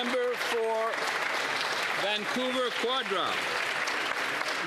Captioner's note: applause